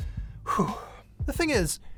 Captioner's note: exhales sharply